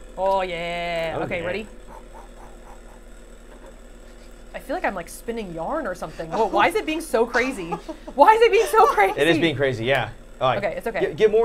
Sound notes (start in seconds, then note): 1.7 Safiya blowing; 7.2 laughing